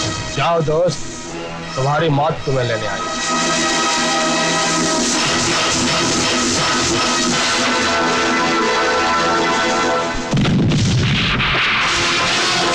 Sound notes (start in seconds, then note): 10.1 explosion